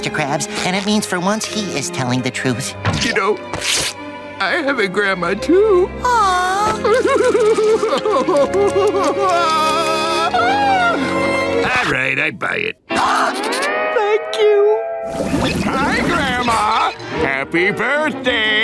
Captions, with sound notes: and it means for once he is telling the truth. You know, I have a grandma too. Aww. [sobbing] All right, I buy it. [gasping] Thank you. Hi, Grandma. Happy birthday.